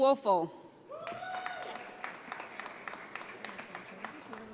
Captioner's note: audience applauds